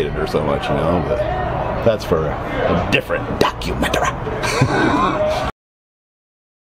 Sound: laughs

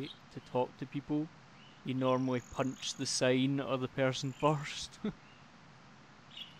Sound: laughs

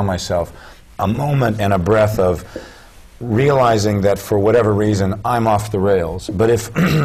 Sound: cough

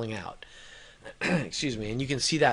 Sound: coughs

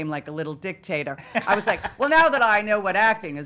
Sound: laughing

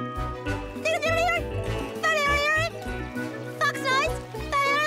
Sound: Agent Squeaks making funny noises

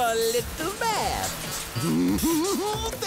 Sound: giggling

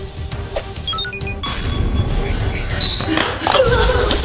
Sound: beeping

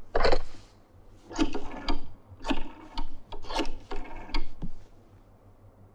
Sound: number dialing

